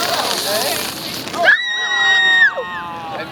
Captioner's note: student screams